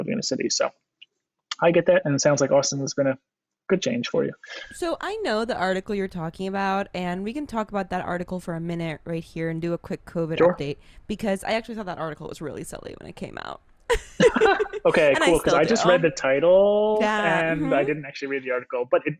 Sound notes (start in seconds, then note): 13.9 laughs